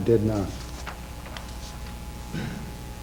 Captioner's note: papers rustling